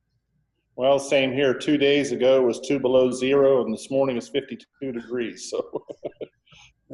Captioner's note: laughs